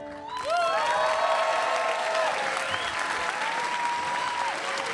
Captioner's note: attendees cheers and claps